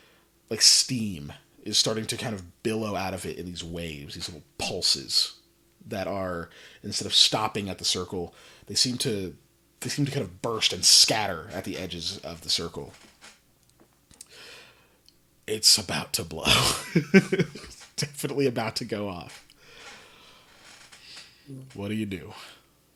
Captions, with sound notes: like, like steam is starting to billow out of it in these waves, these little pulses. That are, instead of stopping at the circle, they seem to-they seem to burst and scatter at the edges of the circle. It’s about to blow (laughs). Definitely about to go off. What do you do?